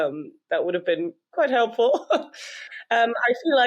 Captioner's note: laughs